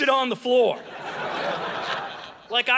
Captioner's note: audience laughing